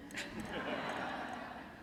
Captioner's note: laughter